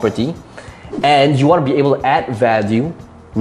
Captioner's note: air whooshing